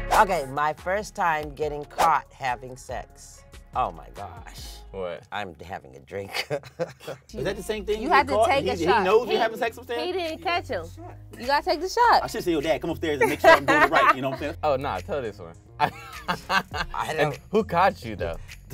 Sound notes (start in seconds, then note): 6.2 both laughing; 13.2 laughing; 15.8 both laughing